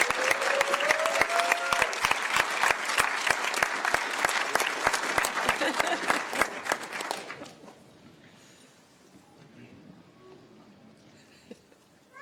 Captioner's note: cheers and applause